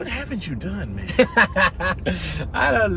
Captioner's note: laughter